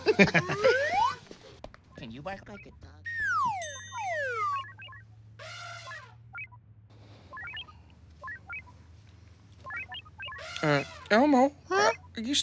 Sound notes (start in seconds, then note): 0.0 laughter; 3.1 video game beeps, elephant trumpets